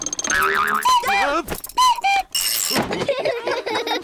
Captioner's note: clock cuckoos; all laugh